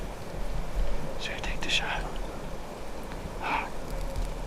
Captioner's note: whispering